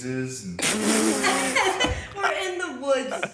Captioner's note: Alex and Sophie snicker